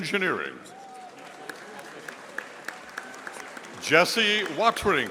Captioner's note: audience applauding